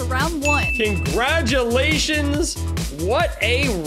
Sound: bell dings

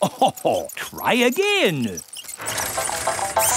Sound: chuckles

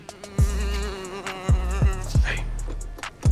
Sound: making airplane noises

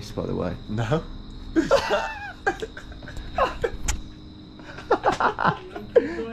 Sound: both laugh

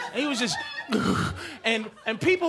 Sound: heavy breathing

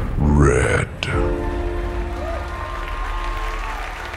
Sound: audience applause

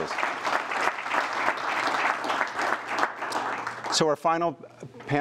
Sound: applause

